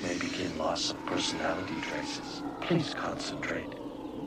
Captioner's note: humming